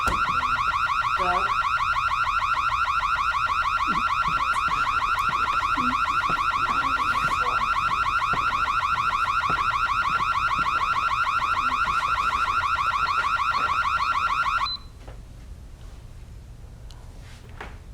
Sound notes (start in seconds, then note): 14.7 alarm stops